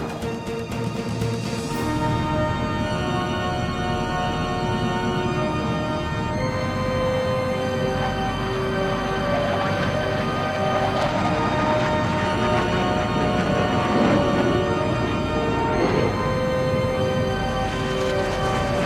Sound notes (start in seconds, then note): 0.0 intense music; 3.0 aircraft whirring; 3.0 intense music